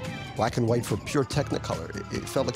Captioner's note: sirens wailing